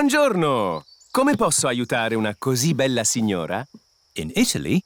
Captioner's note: speaks italian